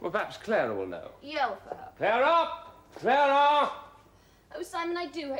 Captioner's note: SIMON, yelling